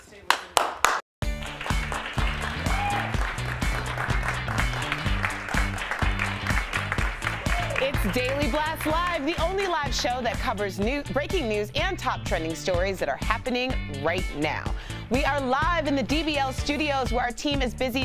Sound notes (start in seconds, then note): 7.4 applause